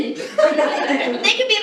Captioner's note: laughing